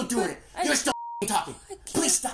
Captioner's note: beep